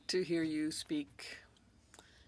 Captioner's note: speaking French